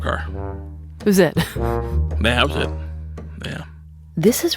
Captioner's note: laughs